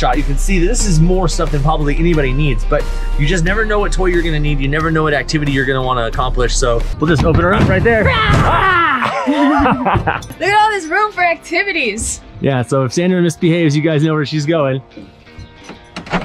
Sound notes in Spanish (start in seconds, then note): 8.0 riendo; 8.3 grito